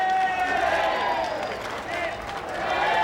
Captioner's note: crowd